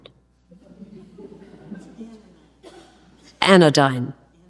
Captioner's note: audience laughs